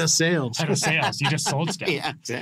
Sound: laughs

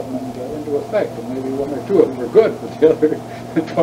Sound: laughs

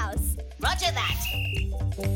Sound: whistling

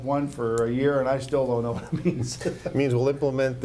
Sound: laughs

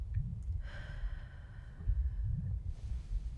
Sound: vague abdominal rumbling

